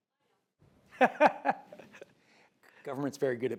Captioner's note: laughs